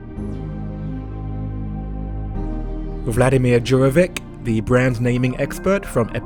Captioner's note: voiceover